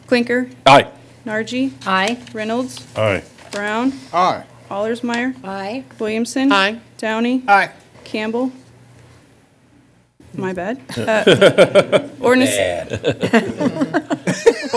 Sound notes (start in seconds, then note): 10.9 laughter; 12.6 more laughter